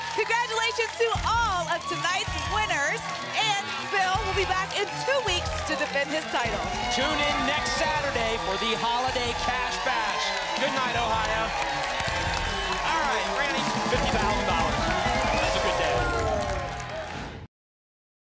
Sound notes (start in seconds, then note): 11.7 applause and cheering cont; 16.7 whoosh